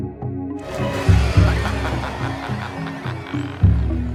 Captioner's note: Koh laughs